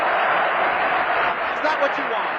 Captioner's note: applause